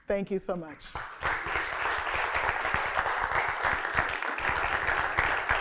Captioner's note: crowd applauding